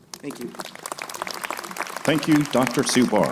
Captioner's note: crowd applauding